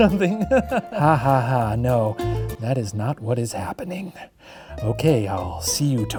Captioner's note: chuckling; faking laughter